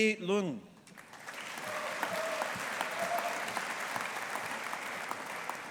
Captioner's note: audience applauding